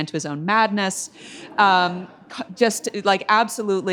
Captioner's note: audience laughs